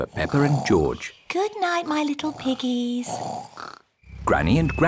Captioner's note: both snoring